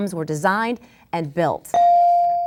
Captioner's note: bell dings